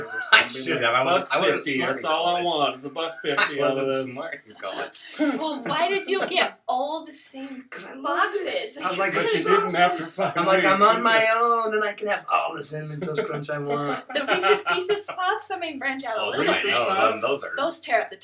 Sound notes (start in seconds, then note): 5.1 laughter